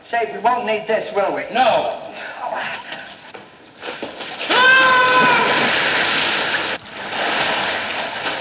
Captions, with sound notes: We won't need this, will we? No. (yells) (water splashes)